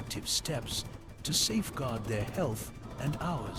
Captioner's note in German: Hubschraubergeräusche